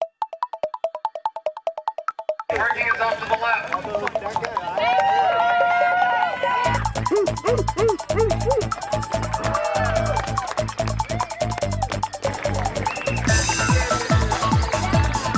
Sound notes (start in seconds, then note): 0.0 digital music; 4.6 cheers; 9.8 cheers and applause; 9.8 upbeat music